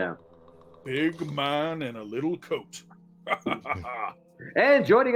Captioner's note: laughs